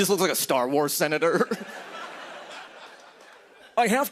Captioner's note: laughter